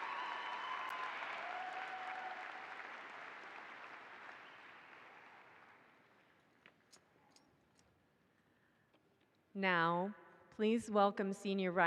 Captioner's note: applause